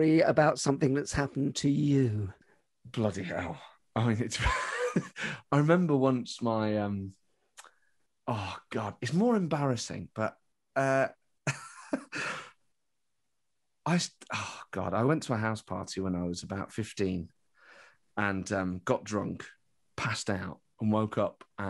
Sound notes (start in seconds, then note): 4.4 laughs; 11.4 laughs